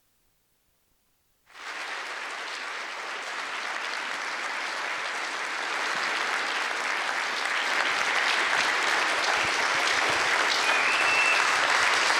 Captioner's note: applause